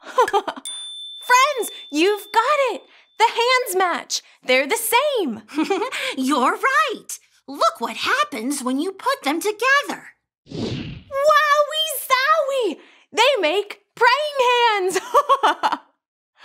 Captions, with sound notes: (giggles) Friends, you've got it. The hands match, they're the same. - (giggles) You're right. Look what happens when you put them together. - Wowy zowy, they make praying hands. (giggles)